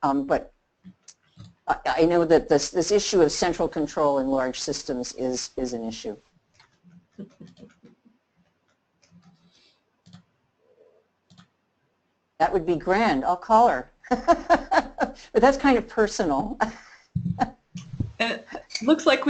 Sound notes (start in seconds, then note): 14.0 laughter